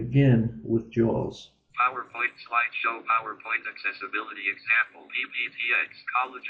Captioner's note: JAWS automated voice